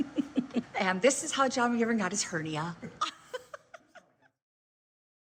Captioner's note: laughing